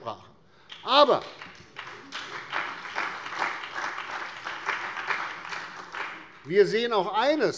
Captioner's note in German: Beifall bei der CDU und bei BÜNDNIS 90/DIE GRÜNEN